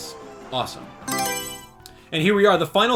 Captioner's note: Mario Selection Sound